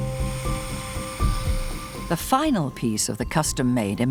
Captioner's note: surgical instrument humming; gentle music